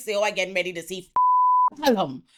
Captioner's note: beep